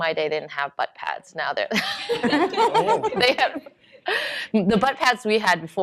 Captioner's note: laughter